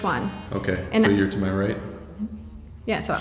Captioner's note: laughs